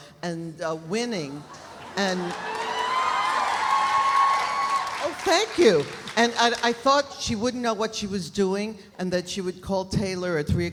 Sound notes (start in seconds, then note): 1.4 audience laughs; 1.5 audience applauding